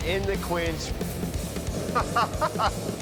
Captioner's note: laughs